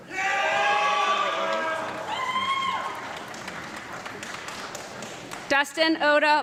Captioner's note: audience clapping and loud shouting